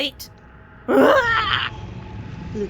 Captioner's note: uncatalogued sound of dismay